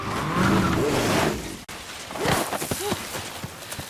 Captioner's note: tires screeching